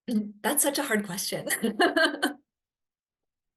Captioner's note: laughs